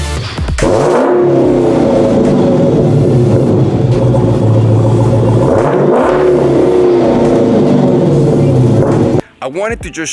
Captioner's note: Hellcat revving